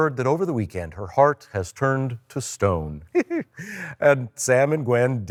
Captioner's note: chuckles